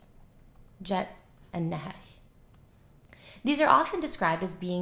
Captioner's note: non-english